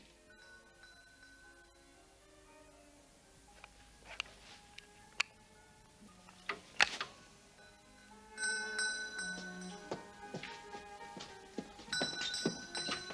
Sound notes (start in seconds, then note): 0.0 bell rings in distance; 7.6 bell ringing